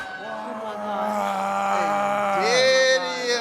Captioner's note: groaning